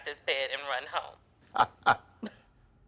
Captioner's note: Eric laughs